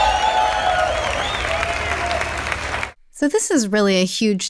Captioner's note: applause